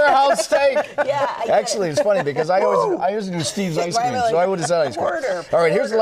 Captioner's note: laughter